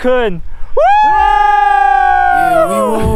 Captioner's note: cheering!